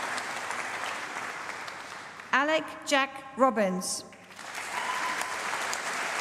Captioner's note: applause